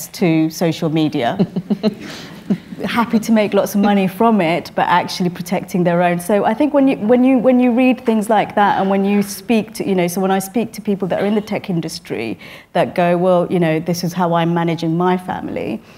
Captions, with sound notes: to social media. (LAUGHTER) Happy to make lots of money from it but actually protecting their own. So, I think when you read things like that and when you speak to, you know... So, when I speak to people that are in the tech industry that go well, you know, this is how I manage in my family,